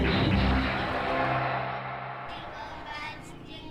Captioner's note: crowd cheering